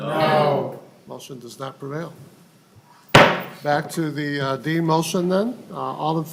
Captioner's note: chorus of ayes